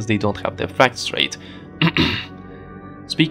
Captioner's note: cough